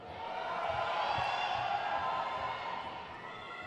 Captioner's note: crowd cheers